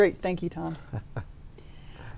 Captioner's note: laughs